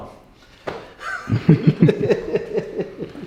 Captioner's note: laughter